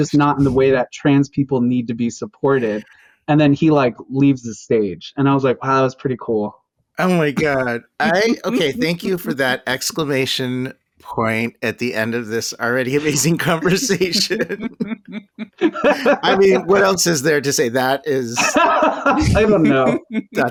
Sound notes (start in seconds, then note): 7.3 laughter; 13.0 laughter; 18.0 busts out laughing